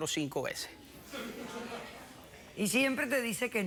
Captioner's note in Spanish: risas